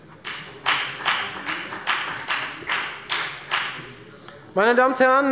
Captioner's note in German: Beifall bei der FDP